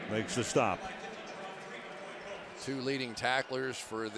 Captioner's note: pa announcement